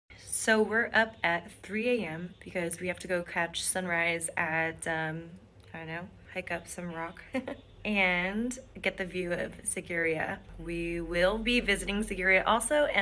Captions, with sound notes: So we're up at 3:00AM, because we have to go catch sunrise at hike up some rock (chuckles) and get the view of Sigiriya. We will be visiting Sigiriya also,